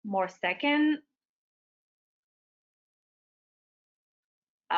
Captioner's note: silence